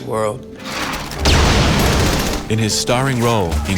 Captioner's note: gunfire and explosions